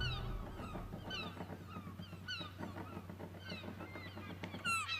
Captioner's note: wings flapping